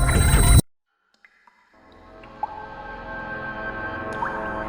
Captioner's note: ominous music; water dripping